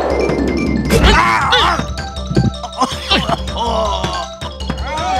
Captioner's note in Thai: ร้อง